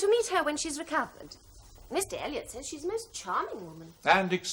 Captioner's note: none